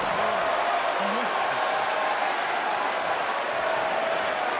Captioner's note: crowd cheering